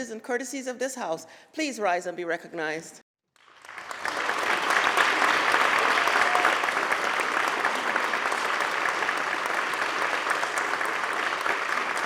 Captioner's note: applause